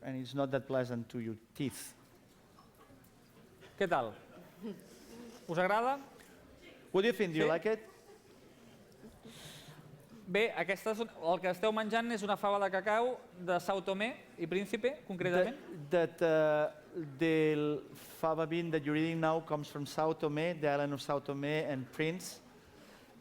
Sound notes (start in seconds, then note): 4.7 non-english speech; 12.2 non-english speech